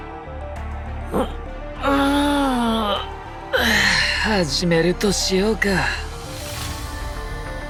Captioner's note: yawns